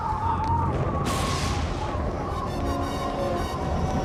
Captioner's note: thunder claps